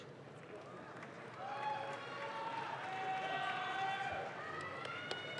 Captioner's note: audience claps